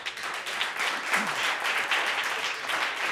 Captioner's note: crowd applauding